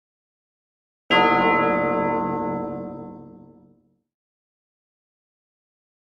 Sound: church bell

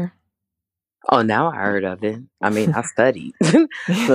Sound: both chuckle

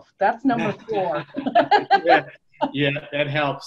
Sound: laughs

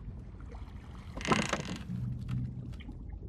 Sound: boat creaking

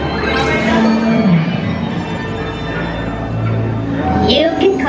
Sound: buzz of guests chattering; droids bleeping

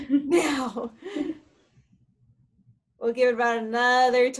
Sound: chuckles

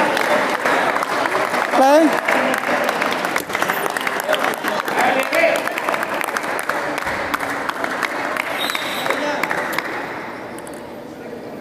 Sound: applause

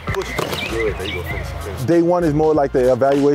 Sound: punching bag thuds

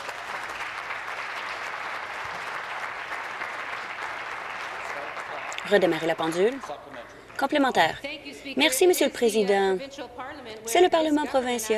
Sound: applause

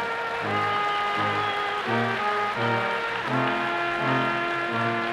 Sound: audience applauding

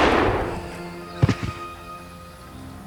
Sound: body falling

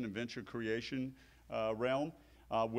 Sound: none

